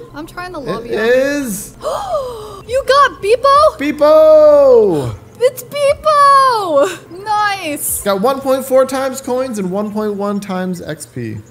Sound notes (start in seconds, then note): 1.7 gasps